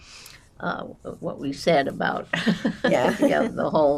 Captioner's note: laughing